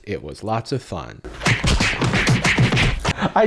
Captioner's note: fighting sound effects